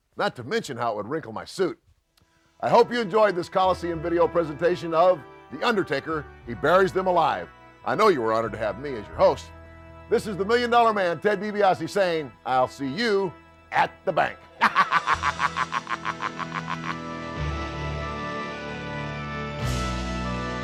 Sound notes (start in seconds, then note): 14.6 laughs; 17.0 solemn funeral march music